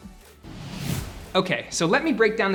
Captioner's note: air whooshing